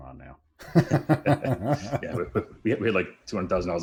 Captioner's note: laughter